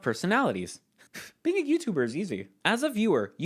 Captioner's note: scoffs